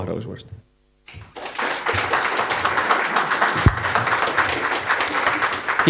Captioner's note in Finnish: Aplodeja